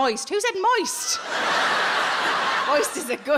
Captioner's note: audience laughing